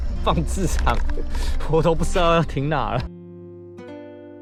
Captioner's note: windy